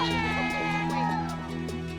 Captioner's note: cheering